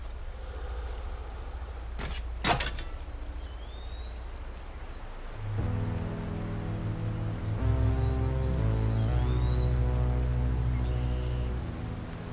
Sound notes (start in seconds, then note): 2.0 spade clonking; 5.4 dramatic music